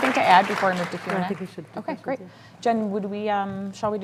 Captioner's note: applause